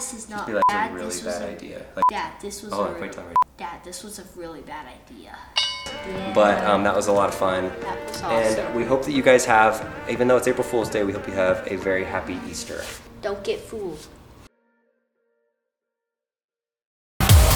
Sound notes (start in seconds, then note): 5.5 bell rings; 15.2 gentle music